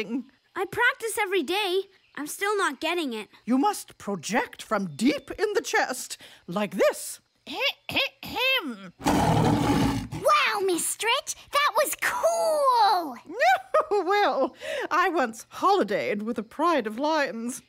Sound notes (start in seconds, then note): 7.3 clears throat; 9.0 roars exactly like a lion; 13.3 chuckles